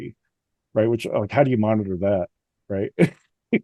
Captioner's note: laughs